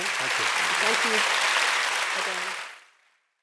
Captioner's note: applause